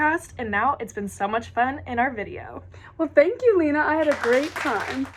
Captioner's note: applause